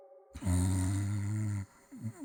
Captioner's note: snore